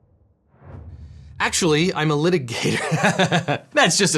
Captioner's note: laughs